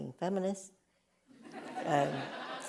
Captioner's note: laughter